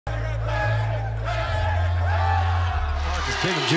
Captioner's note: people cheering